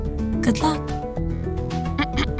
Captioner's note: clears throat